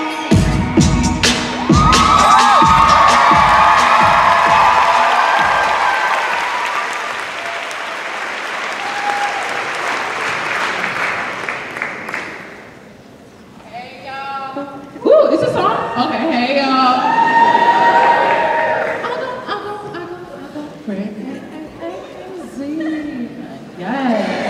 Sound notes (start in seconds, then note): 1.4 cheers and applause; 16.8 cheers